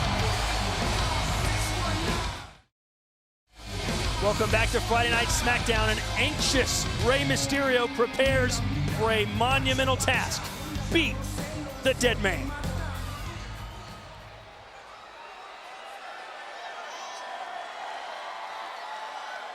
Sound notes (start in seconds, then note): 12.7 upbeat music continues; 14.3 crowd cheering